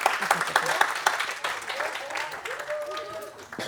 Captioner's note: applause